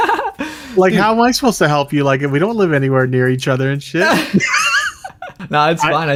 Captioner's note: laughs; laughs